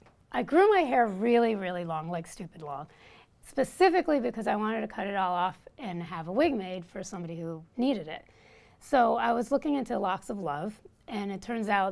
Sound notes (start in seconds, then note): none